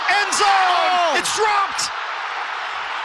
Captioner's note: cheers and applause; crowd noise